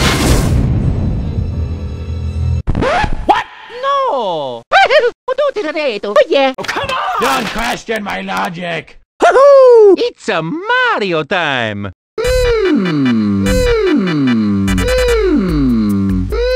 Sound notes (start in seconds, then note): 2.4 record scratch; 4.9 italian gibberish